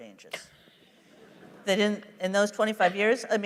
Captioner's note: laughter